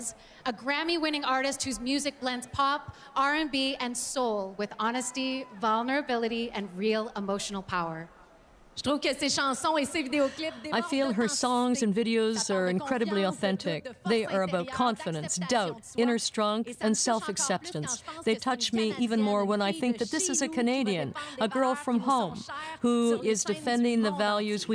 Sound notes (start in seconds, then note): 14.8 speaking French